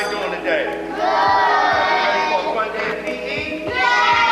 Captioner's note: bell ringing